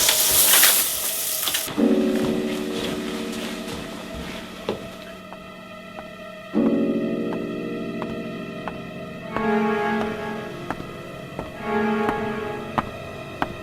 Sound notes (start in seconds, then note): 6.5 footsteps approaching